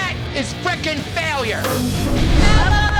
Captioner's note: thump